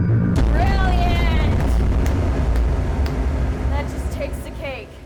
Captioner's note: ominous music; claps